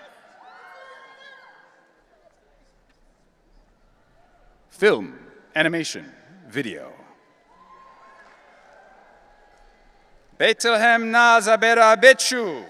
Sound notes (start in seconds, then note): 0.3 audience cheering; 7.4 audience cheering